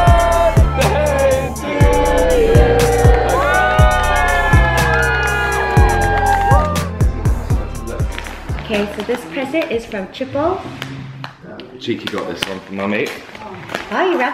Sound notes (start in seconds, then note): 3.5 cheering